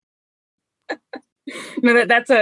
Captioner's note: laughs